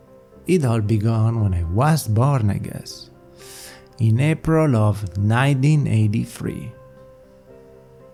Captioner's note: inhale